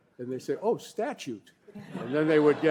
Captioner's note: laughter